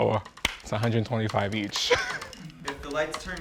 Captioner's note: chuckles